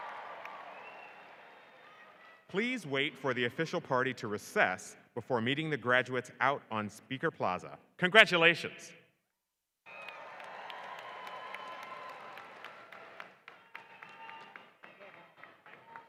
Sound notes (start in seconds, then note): 9.8 applause